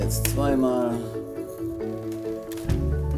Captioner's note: driving sounds